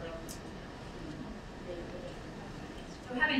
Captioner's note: speaking away from mic